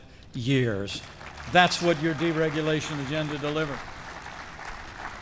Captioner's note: applause